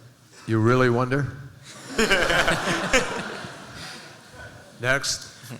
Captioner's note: laughter